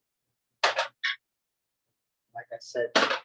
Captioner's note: silence